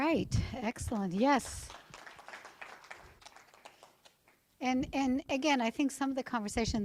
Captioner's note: applause